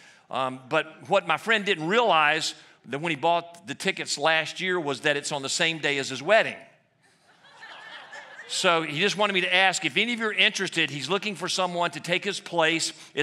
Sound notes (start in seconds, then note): 7.2 laughter